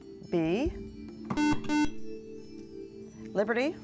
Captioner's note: buzzer